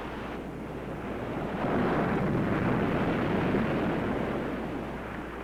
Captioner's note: waves roaring